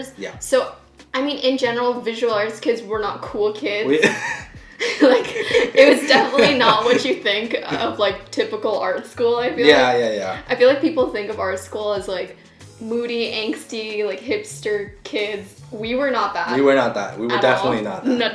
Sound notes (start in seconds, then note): 3.9 laughing